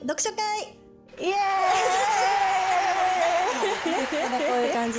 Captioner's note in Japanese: 泣き声